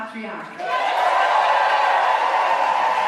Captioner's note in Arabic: الحشد يهتف بشدة